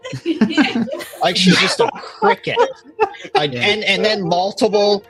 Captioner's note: laughing